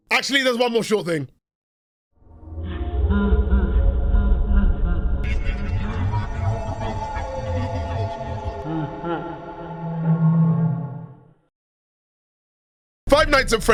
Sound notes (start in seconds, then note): 3.1 Creepy ambiance, Freddy laughing, garbled speech